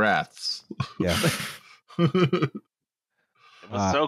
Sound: chuckles

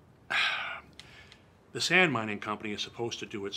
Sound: sighs

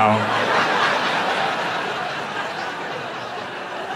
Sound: audience laughs

